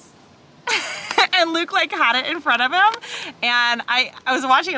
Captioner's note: chuckles